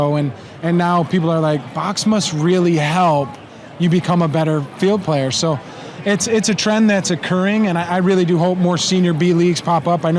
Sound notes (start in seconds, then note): none